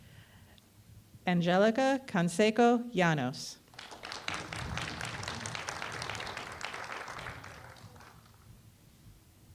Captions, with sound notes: Angelica Conseco Yanos [Applause]